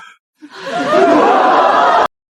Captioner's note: laughter